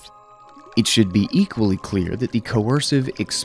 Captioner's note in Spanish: agua burbujeando